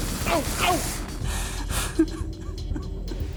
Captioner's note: crying